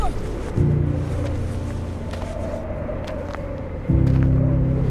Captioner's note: moans; wind blowing; soft music